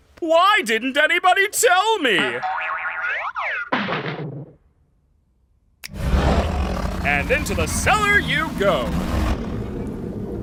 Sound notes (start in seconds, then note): 2.4 boing, whoop, bonk!; 5.9 Kaufmo growling